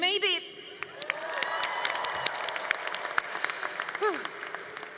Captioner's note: congregation applauding